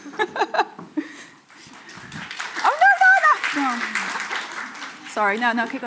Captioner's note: laughing; audience applauding